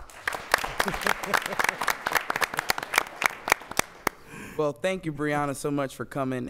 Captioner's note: applause